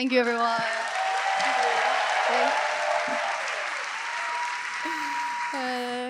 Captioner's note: audience cheering and applauding